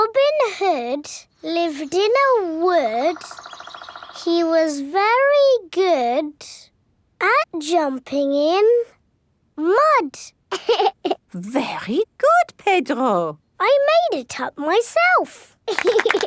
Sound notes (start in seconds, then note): 10.5 laughs